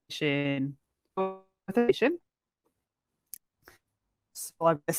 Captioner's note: audio distorts